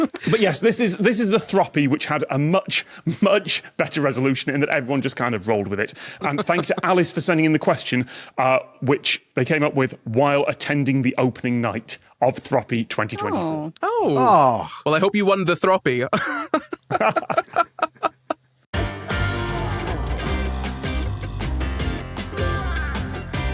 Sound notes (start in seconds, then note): 13.1 guests aww; 16.1 laugh